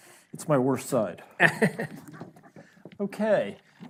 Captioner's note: laughs